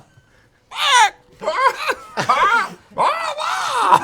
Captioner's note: caw